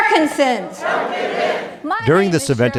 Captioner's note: crowd